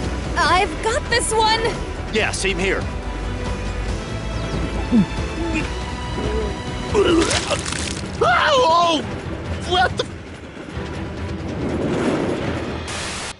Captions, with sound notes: I’ve got this one! Yeah, same here! [Diego retching] [Ted screams] What the f--?!